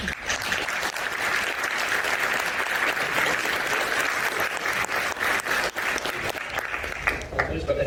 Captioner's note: applause